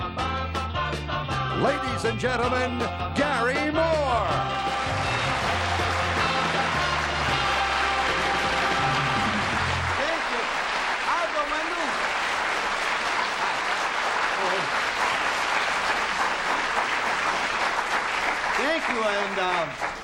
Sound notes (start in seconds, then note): 2.3 theme music; 7.7 applause; 18.0 applause continues